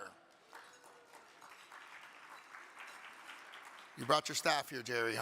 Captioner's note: audience clapping